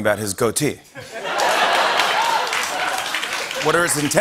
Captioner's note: laughter